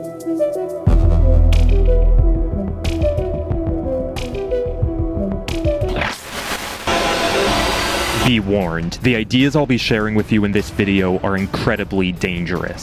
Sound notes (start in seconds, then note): 0.0 mysterious electronic music; 5.9 static sound